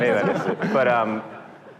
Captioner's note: audience laughter